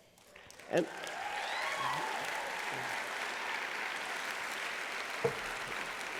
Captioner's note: applause